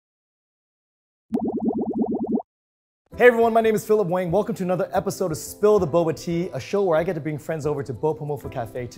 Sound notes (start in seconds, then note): 1.3 tapioca bubbling